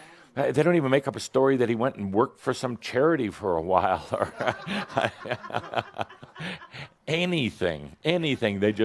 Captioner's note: Adamus chuckles